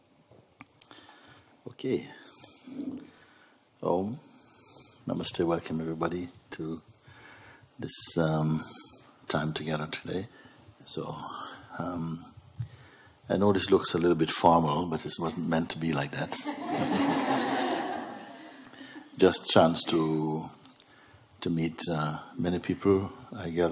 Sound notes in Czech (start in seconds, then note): 16.4 smích